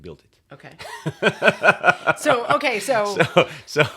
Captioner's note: laughs